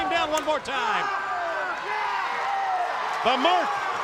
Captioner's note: crowd cheering